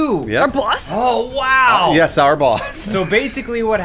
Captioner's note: wheezing